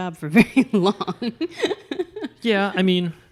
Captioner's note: laughs